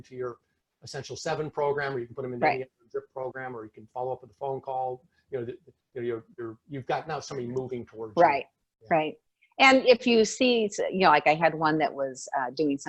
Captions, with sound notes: into your Essential Seven program, or you can put them in (speaking faintly) program, or you can follow up with a phone call where you, you've got now, somebody moving towards-- - Right, right. And, if you see it's, I had one that was doing